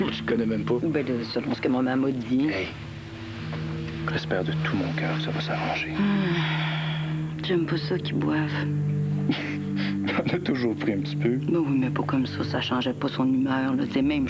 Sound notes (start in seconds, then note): 5.9 Elle soupire; 10.2 Rire